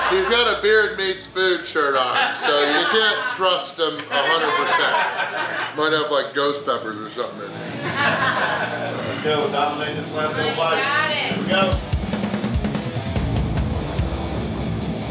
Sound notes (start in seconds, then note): 5.0 audience laughing; 7.4 audience laughing; 9.0 audience cheering; 11.9 upbeat rock music